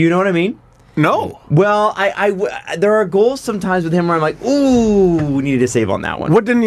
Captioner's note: stuttering